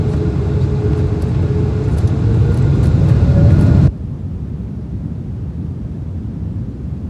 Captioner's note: engines revving